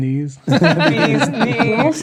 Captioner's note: players laughing